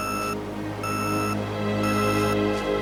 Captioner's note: beeping